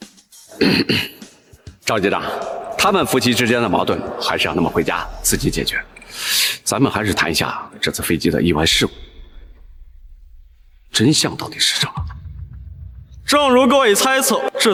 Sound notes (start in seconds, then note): 0.5 cough, cough